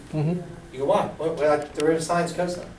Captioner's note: voiceover